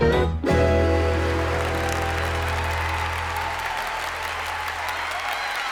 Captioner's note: audience applauding